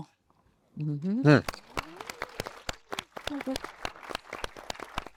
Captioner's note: attendees applauding